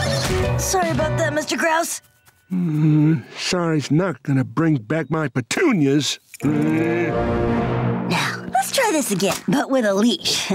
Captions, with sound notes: Sorry about that, Mr. Grouse. [grumbling] Sorry's not gonna bring back my petunias. [growling] Now, let's try this again, but with a leash.